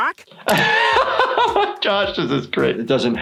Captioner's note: laughs